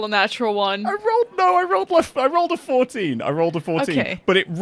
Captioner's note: laughing